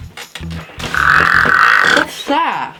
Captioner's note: farts